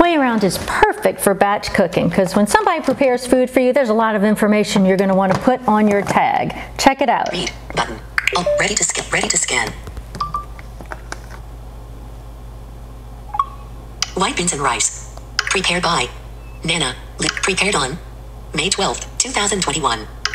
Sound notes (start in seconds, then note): 7.9 computerized Voice